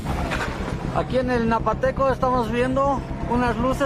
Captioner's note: man speaking in Spanish